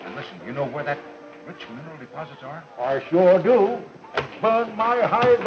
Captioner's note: none